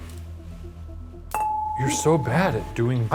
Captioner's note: metal clanking